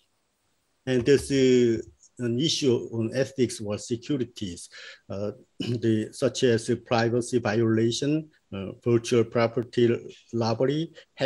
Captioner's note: sniffing